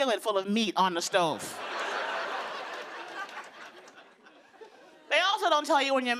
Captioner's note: laughter